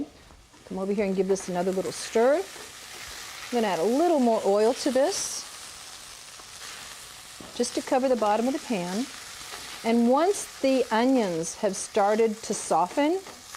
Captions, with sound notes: Come over here and give this another little stir. (sizzling) I'm gonna add a little more oil to this. Just to cover the bottom of the pan. And once the onions have started to soften,